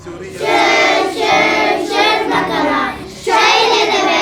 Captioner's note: Turkish